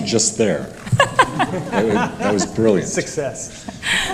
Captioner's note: laughter